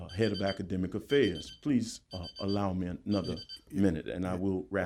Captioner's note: beeper